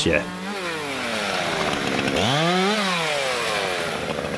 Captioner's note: chainsaw revving